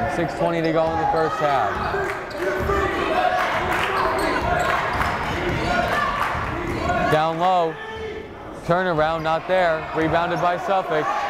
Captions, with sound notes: 6:20 to go in the first half. (yelling) Down low, turn around not there, rebounded by Suffolk